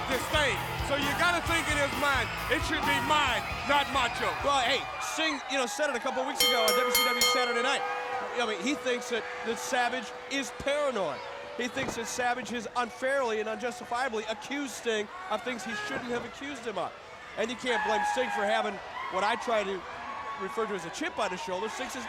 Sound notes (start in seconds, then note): 6.4 bell ringing